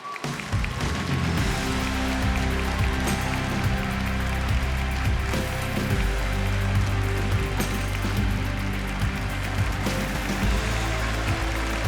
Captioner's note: applause